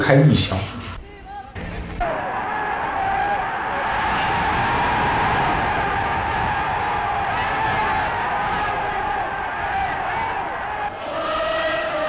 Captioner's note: cheers